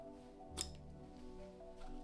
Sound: snip

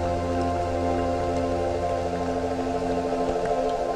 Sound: sounds of rain

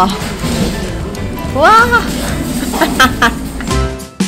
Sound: laughing

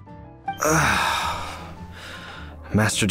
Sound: sigh

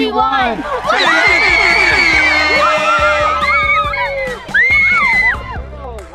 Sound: girls cheering

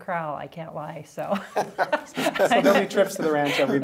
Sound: laughing

